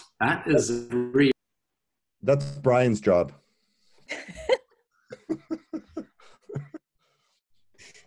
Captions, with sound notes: - That's Brian's job. (audience laughing)